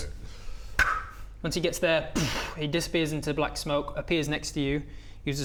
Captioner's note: poof